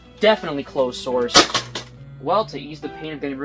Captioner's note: tapes hitting floor